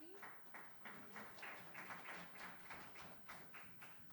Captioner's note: audience applauding